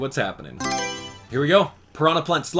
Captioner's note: Mario Selection Sound